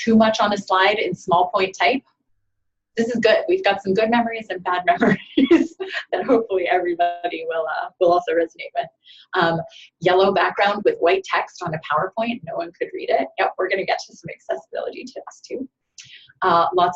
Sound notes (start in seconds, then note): 5.1 chuckles